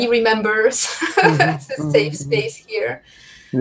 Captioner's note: laughs